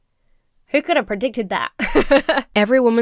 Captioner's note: laughs